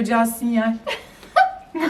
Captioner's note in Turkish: gülüşmeler